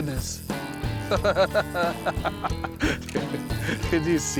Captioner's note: laughing